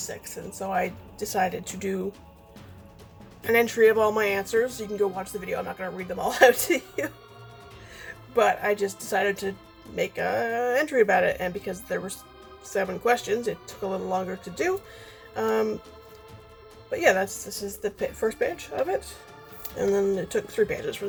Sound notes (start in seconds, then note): 8.4 laughs